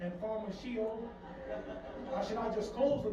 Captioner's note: audience on TV laughing